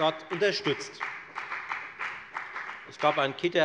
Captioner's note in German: Beifall bei der FDP